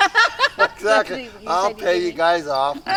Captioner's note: person laughing